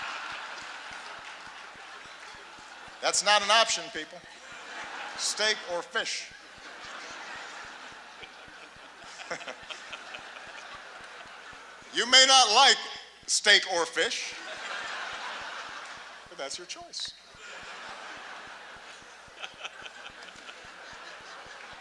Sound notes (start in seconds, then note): 0.3 laughter; 8.9 laughter